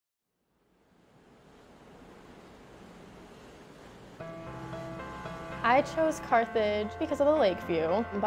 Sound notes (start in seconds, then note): 0.9 waves crashing softly